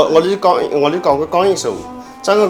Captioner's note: wu Chinese; wu Chinese